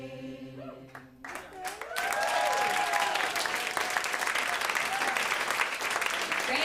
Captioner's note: applause